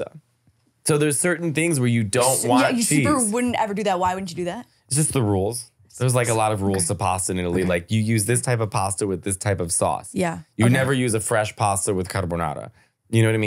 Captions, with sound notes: - Even in Sicily, they'll just pile on. (laughing) - I would love to be in one of the little sidecars, do they do that? - That's adorable. - I love like, the dogs in like the 1960's? - Little dogs in the sidecar? - Yeah, with like the glasses, like little scarf and stuff. - Exactly, that's all I wanna do.